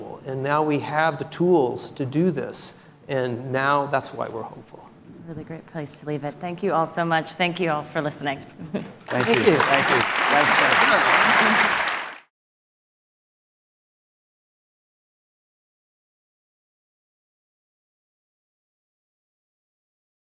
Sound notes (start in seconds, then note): 9.0 audience applauds